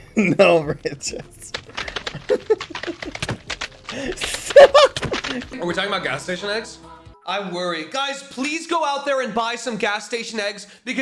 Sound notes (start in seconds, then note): 1.7 squishing sounds; 1.7 laughing; 2.6 squishing sounds; 3.8 laughing